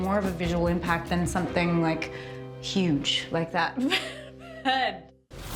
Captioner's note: chuckles